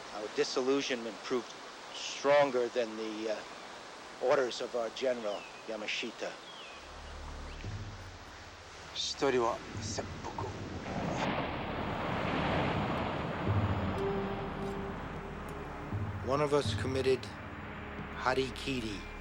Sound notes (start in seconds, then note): 9.5 speaking foreign language